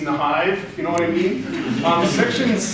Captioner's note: laughter